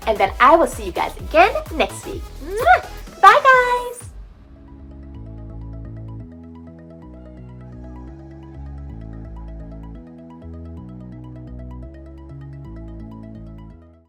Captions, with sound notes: and then I will see you guys again next week. (blows an air kiss) Bye guys. (upbeat music)